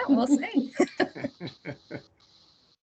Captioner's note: laughing